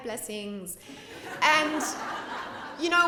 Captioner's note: laughter